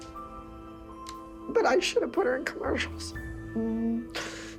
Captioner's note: tearfully